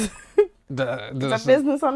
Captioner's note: laughing